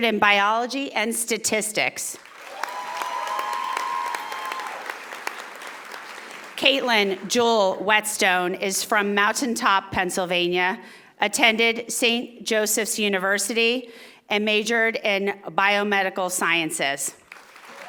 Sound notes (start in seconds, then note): 2.2 audience applauding; 17.2 audience applauding